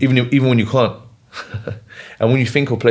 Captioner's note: laughs